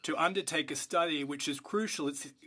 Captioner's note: speaking French